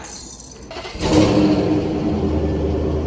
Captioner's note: chitter chatter; motor starts up